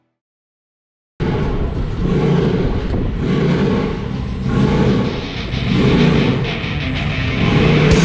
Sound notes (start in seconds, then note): 1.2 engine revving; 4.9 aggressive rock music